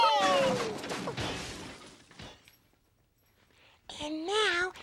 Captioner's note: crash